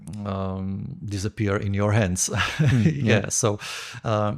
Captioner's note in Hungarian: nevetés